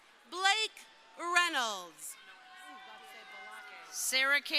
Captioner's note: crowd cheering